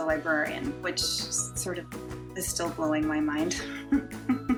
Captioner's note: laughs